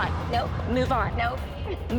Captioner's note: laughs